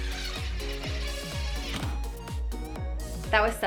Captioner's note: drill whirring